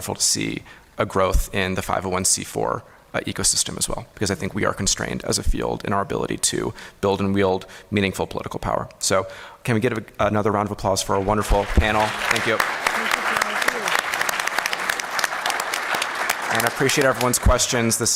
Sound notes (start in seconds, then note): 14.3 applause